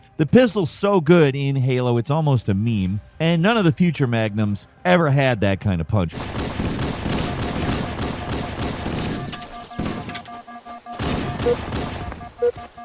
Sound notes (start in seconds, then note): 6.6 gunshots blasting; 6.8 machine beeping